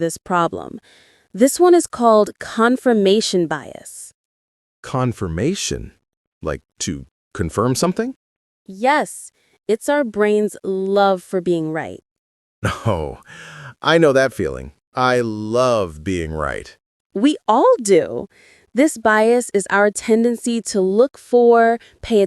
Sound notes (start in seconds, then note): 12.6 laughs